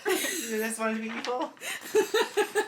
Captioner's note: laughing